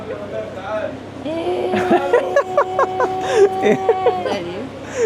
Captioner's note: laugh